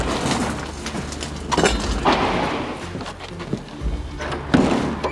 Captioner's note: boat scuffing; metal clanking; trailer latch squeaks